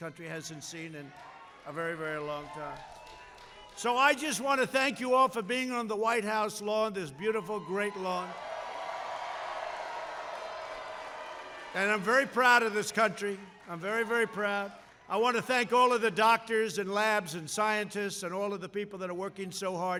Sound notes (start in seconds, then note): 7.6 applause